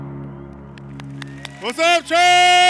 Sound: applause

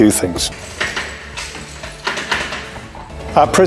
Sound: locking sounds

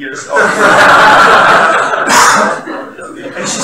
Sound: laughter from the audience

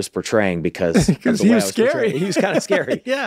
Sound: laughs

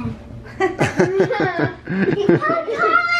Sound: laughing

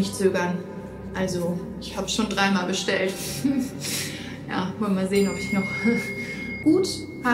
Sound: chuckles

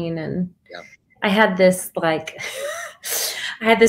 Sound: laughs

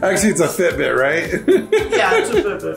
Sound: laughing

